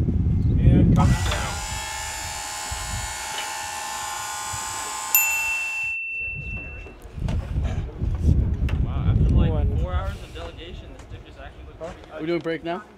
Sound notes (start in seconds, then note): 1.0 machine whirring